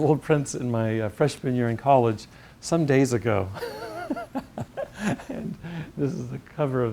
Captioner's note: laugh